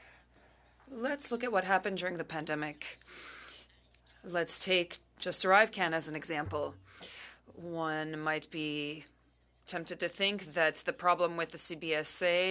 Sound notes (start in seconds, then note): 1.0 speaking French